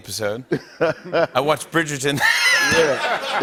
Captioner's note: laughter